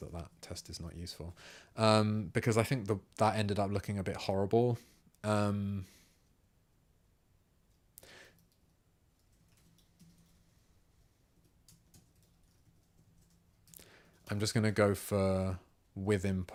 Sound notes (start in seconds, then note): 9.7 silence